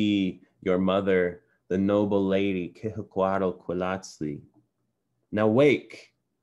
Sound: non-english

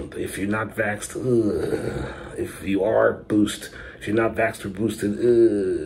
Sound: grumbles

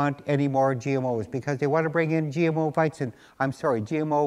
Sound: speaking german

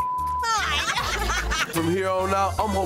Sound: beep; group laughing

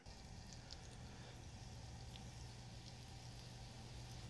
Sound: oil sizzling

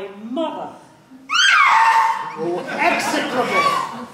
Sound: screams

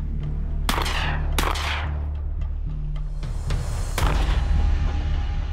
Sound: gunshots

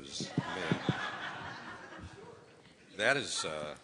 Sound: audience laughs

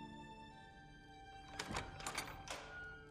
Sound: door opens

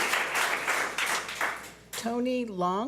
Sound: public applauding

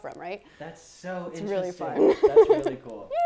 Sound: laughs

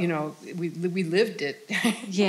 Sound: laughing

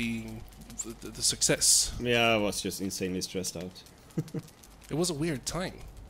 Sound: laughs

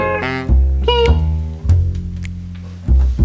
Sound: toy makes feeble sound

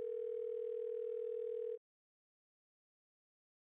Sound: phone ringing

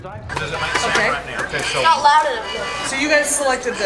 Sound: classroom noise

